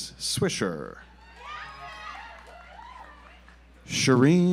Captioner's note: audience applauds